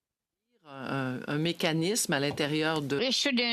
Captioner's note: speaking French